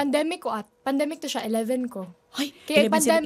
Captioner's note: gasps